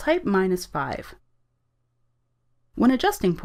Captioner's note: silence